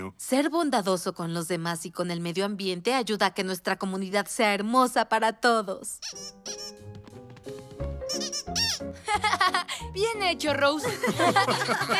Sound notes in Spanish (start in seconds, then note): 5.9 chillido de juguete; 9.0 risas